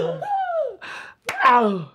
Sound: clapping

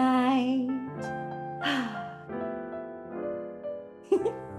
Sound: sighs

